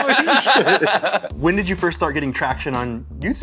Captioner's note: laughter